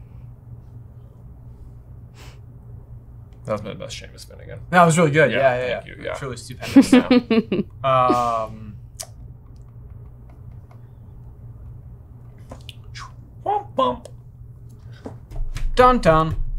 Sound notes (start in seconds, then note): 6.6 laughing; 13.3 imitating musical sounds